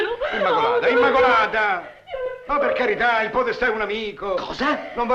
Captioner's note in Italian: immacolata piange